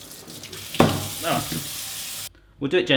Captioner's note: water rushing